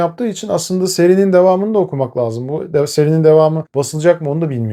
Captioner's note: in Turkish